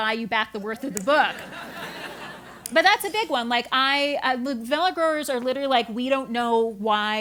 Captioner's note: laugh